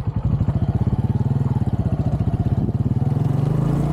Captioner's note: engine noise